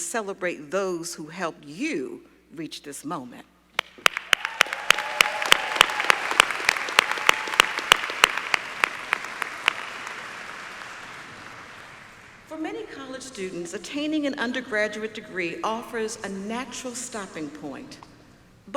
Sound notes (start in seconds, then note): 6.4 applause